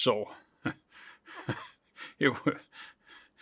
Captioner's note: chuckles